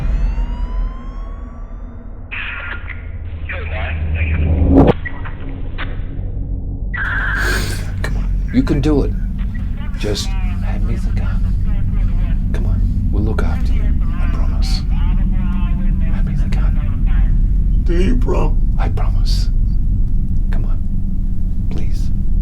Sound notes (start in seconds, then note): 0.0 dramatic music; 4.2 radio chattering